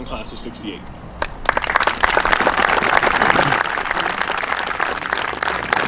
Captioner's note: audience applauding